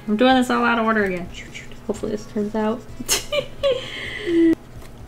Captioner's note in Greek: Γέλια